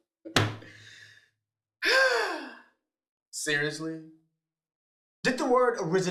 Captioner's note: sighs